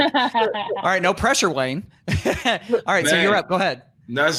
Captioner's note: laughs